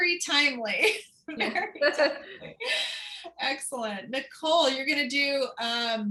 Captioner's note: laughter